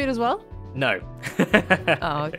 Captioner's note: laughs